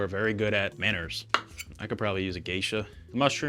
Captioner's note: knife chops